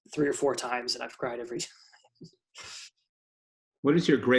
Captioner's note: chuckles